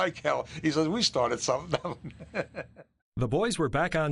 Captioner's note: laughing